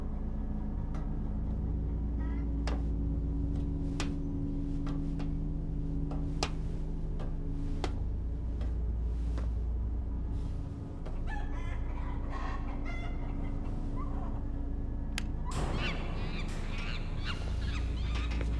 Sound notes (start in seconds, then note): 15.6 monkey screeches